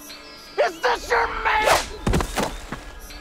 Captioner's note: Promise thuds